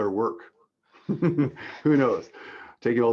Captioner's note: laughter